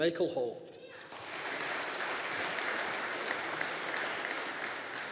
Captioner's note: audience applauding